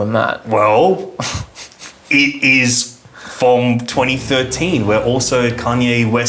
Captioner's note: chuckles